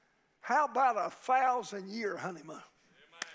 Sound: claps

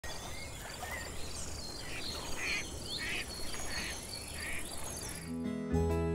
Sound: nature Sounds

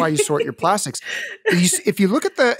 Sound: laughing

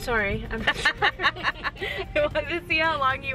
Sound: laughing

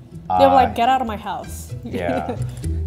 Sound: laughs

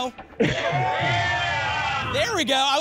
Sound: cheering

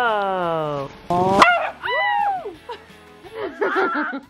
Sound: Walter barks; screams; both laughing

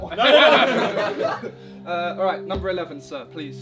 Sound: all laughing

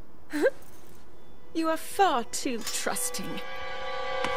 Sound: evil chuckle

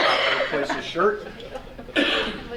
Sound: faintly speaking

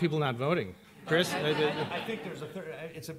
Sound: laughter

